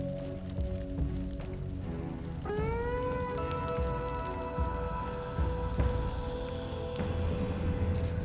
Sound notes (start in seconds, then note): 3.2 leaves rustling